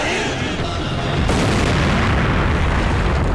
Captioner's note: Explosion